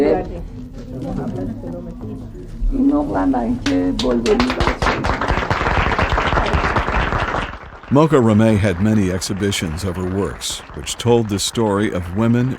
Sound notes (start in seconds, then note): 4.0 guests applauding